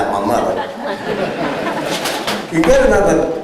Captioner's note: laughter